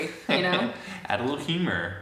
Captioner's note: laughs